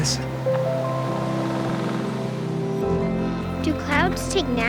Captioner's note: wind Blowing Through The Trees